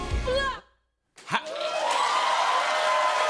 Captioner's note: cheers and applause